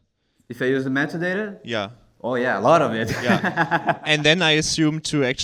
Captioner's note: laughs